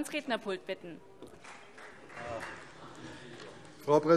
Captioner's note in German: Vereinzelter Beifall CDU